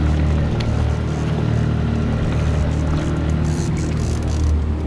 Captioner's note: reel cranking; boat enging running; reel cranking